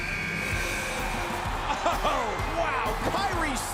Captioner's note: buzzer buzzes